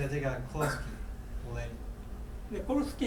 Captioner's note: coughing; speaking in foreign language